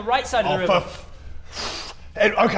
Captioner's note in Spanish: Respiración profunda